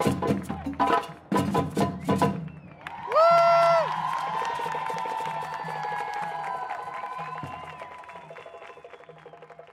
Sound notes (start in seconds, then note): 2.2 applause